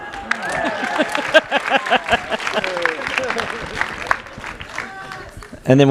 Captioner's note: audience applauds; laughs